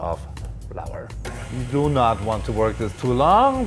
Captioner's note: mixer hums